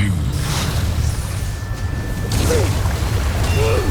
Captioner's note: evil energy whoosh & crackle; grunts; powerful blast-crackle; powerful whoosh-crackle